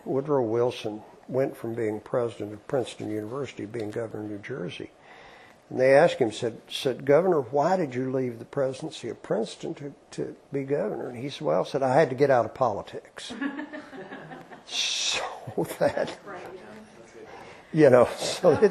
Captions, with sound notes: Woodrow Wilson went from being president of Princeton University to being governor of New Jersey. And they asked him, said, Governor, why did you leave the presidency at Princeton to be governor? And he said, well, I had to get out of politics. [LAUGHTER] Right. That's good.